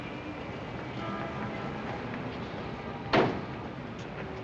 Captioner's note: car door slams